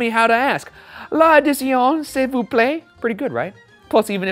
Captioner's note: speaking French